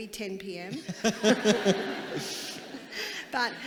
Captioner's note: audience laughing